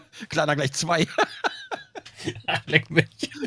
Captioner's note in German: lachen; lachend